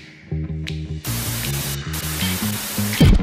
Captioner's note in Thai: เสียงโทรทัศน์